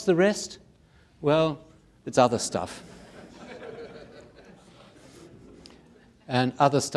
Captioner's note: audience laughing